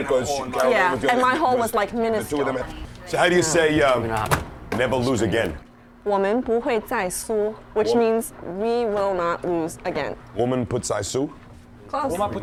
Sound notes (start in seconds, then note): 6.1 non-english speech